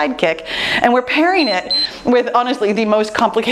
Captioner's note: timer beeps